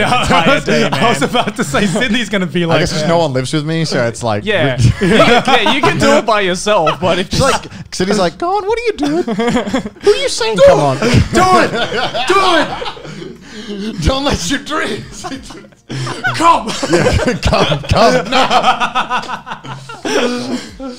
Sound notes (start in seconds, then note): 18.0 laughing